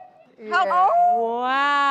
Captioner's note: cat calls